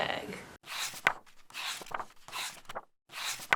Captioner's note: pages turning